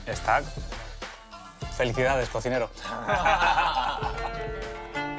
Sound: laugh

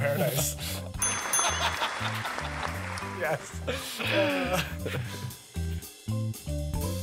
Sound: bell rings; laughter/audience clapping

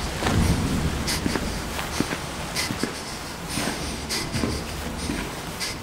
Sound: heavy footsteps

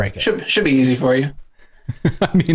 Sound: laughter

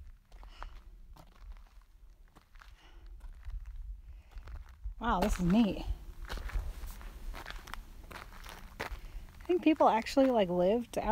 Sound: crunching

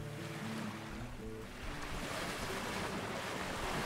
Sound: water surges

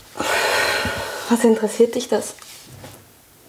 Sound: sighs

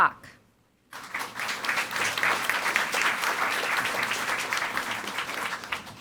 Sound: audience applauding

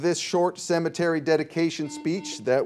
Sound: buzzer dings

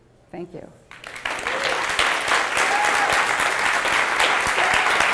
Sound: applause

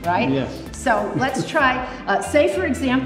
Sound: Tony chuckles

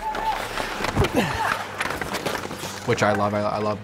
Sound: grunting

